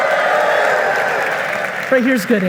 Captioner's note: audience cheering and applauding